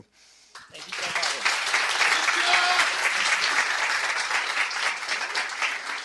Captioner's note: clapping